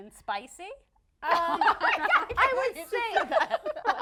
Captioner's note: laughing